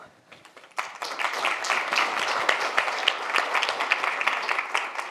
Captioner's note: audience applauds